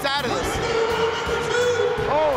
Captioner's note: announcer voice booms